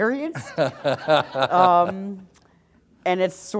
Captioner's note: laughter